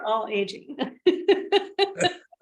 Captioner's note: laughter